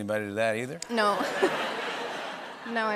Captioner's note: laughter